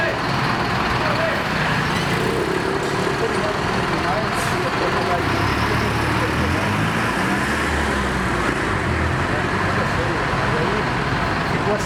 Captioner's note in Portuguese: ruído de ônibus